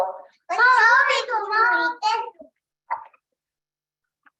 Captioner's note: children babbling